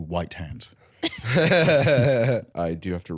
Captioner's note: laughing